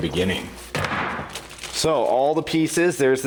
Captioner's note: thudding